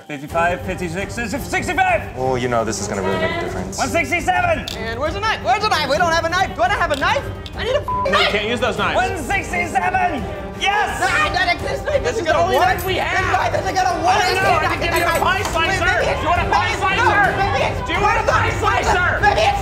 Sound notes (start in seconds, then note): 7.8 beep; 13.8 frantic yelling